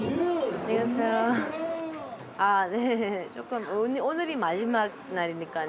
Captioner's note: speaking Korean